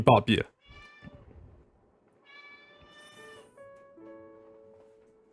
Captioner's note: cat meows